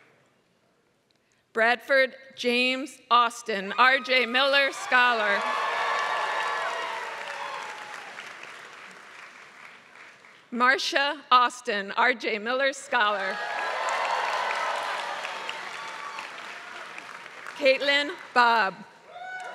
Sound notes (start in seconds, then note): 4.1 applause; 13.2 applause